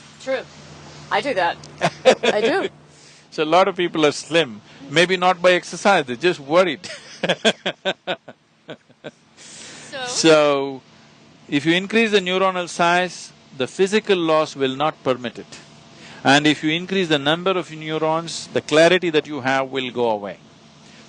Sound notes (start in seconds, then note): 1.7 Sadhguru laughs; 9.4 laughs